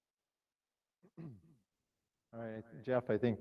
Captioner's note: clears throat